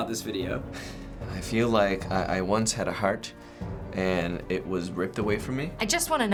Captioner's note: sighs